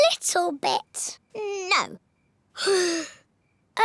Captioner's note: sighs